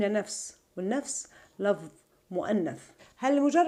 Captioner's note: in Arabic